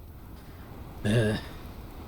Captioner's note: beleaguered sigh